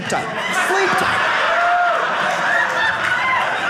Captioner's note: audience laughing